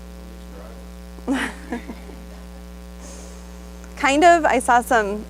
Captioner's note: audience member responds; laughs